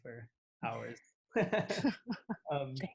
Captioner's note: laughs